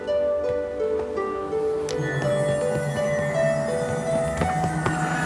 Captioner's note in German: elektrisches surren